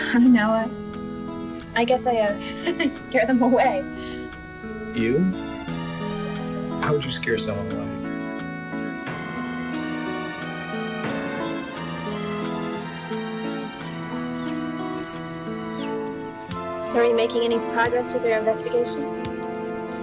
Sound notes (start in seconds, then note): 2.3 Margaret laughing; 8.5 sinister music; 15.4 birds chirping